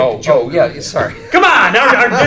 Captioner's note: laughing